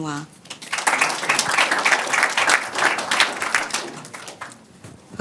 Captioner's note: audience applauding